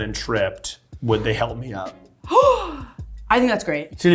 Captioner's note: gasping